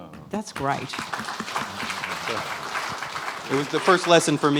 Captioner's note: applause